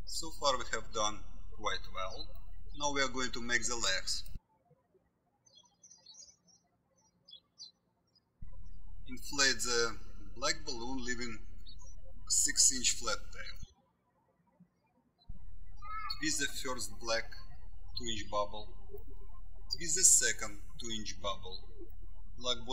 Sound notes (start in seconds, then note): 5.2 birds chirping